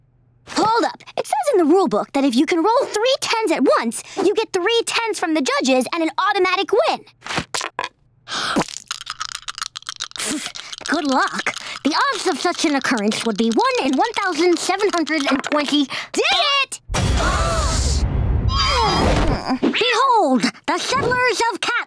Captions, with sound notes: Hold up, it says in the rule book that if you can roll three tens at once, you get three tens from the judges and an automatic win! [spitting] Good luck, the odds of such an occurrence would be one in one thousand seven hundred and twenty-- Did it! [gasps] [groaning] Behold, the Settlers of Catland!